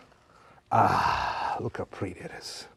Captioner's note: sighs